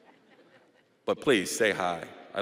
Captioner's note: audience laughing